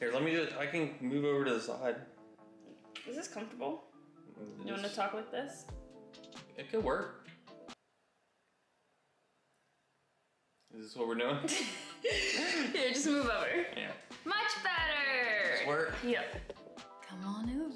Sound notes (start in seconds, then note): 11.4 laughing